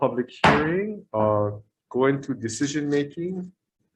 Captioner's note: gavel banging